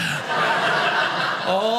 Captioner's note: audience laughing